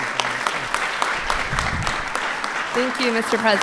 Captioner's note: applause